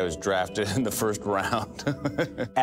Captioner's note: laughs